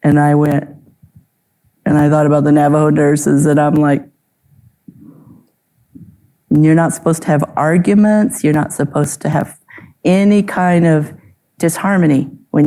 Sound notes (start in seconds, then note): none